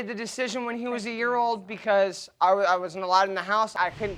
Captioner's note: stammering